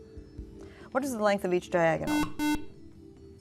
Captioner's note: buzzer